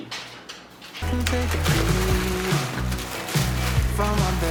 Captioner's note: wrappers crinkling